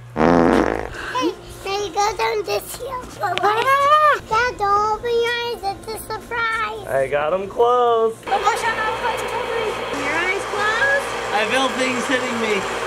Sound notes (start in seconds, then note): 0.1 fart noise; 8.2 bubble machines whirling